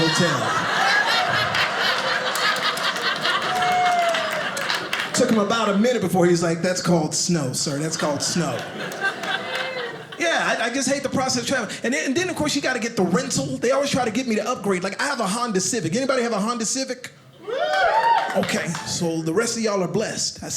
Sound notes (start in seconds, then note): 0.0 audience laughing; 17.3 audience cheers